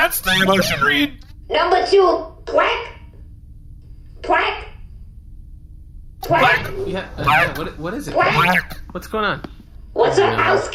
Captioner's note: shouts